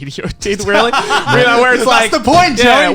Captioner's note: Garnt laughing